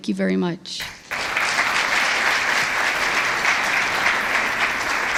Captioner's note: audience applauds